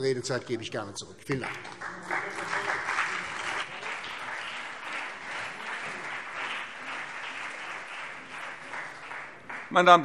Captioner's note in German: Beifall CDU und BÜNDNIS 90/DIE GRÜNEN